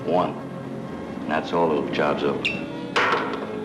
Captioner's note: cork pops; clatters on table